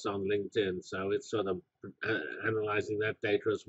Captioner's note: cough